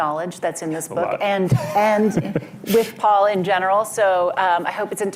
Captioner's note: laughs